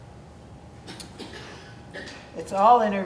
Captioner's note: person coughing